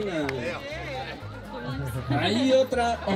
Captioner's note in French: rire